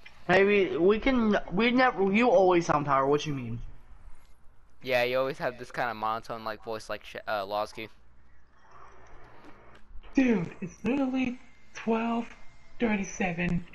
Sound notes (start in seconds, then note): none